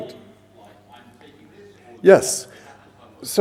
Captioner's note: man speaks softly